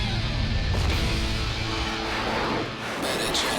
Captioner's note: explosion